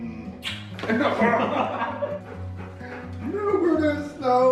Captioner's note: laughter